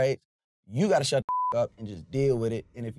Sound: beep

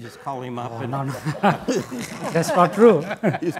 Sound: laughing

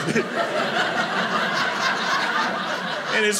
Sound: imitates boy choking; audience laughing

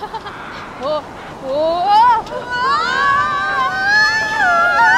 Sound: storm building

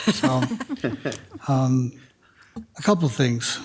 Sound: laughs

